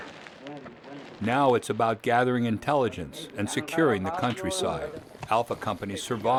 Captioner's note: voiceover